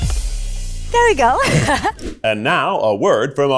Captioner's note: laughs